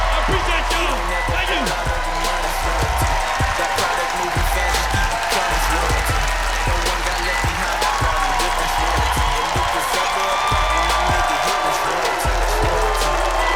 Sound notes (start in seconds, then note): 4.4 cheers and applause